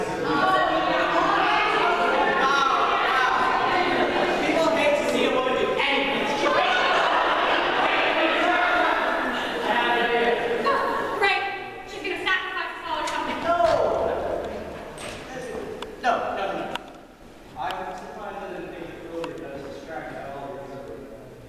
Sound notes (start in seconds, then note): 6.1 audience Laughter